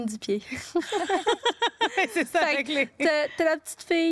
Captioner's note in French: rires